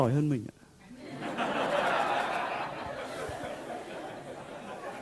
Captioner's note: audience laughs out loud